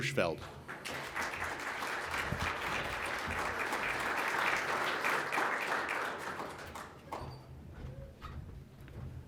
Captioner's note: applause